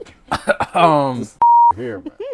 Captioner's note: laughter